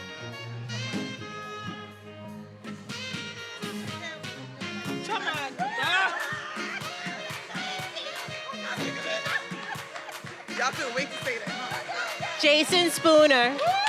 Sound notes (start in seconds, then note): 3.9 speaking faintly